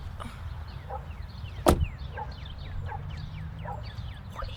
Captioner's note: dog barking